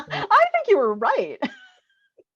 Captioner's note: laughs